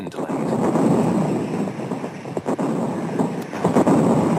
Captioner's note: bombs exploding